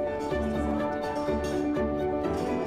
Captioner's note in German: Stimmengewirr